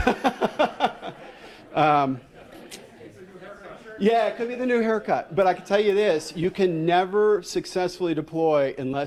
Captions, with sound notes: (laughs) (speaking off microphone) Yeah, it could be the new haircut. But I could tell you this, you can never successfully deploy